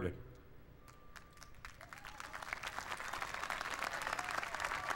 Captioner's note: applause